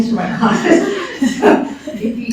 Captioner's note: laughter